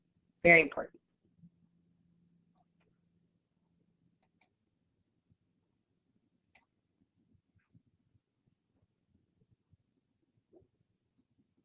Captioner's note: silence